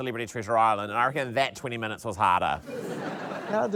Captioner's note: laughter